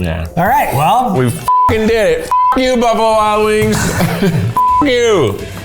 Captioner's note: beep